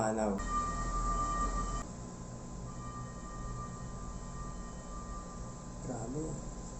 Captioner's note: fire bell